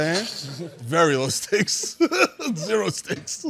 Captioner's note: laughing